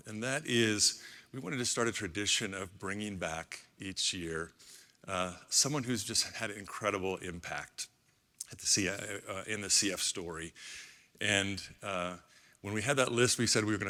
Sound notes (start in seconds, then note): none